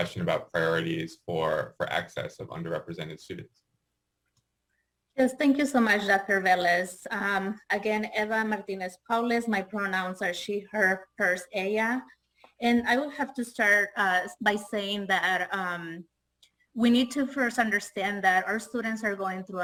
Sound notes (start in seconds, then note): 11.7 spanish